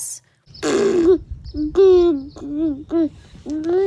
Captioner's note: baby cooing